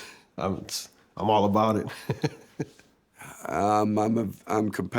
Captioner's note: laughs